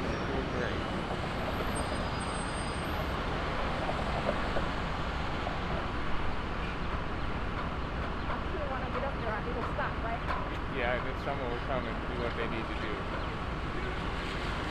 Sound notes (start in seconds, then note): 1.7 traffic humming; 7.1 birds chirping